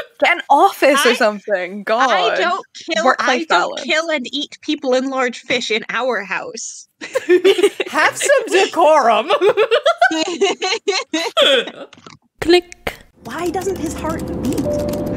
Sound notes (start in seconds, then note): 7.0 laughing; 9.3 everyone laughing; 12.2 click; 14.5 keyboard typing and a planes seatbelt warning ding